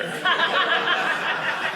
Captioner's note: audience laughing